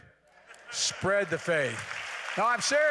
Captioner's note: laughter and applause